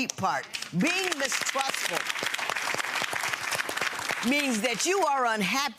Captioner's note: audience applauds